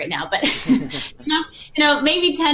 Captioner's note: both laugh